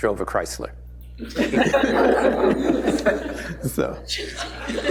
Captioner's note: laughter